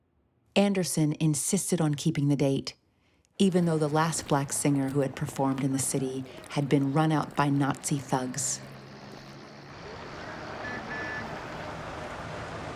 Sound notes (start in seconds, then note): 10.6 car horn honks